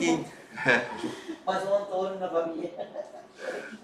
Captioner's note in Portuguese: risos